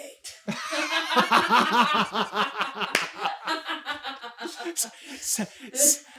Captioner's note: team laughter